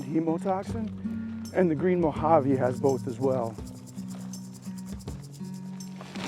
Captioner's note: rattle of snake tail